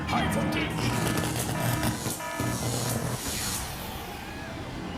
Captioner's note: electricity buzzing